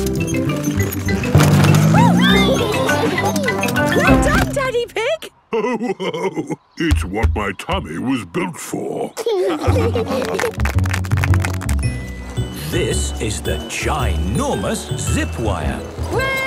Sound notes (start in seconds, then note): 5.4 laughing; 5.5 giggles; 9.0 laughing; 10.1 clapping